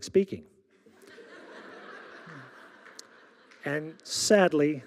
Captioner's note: audience laughing